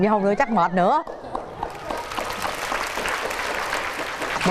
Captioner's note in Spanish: aplausos